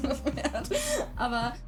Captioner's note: laughing